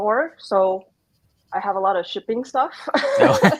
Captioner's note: laughs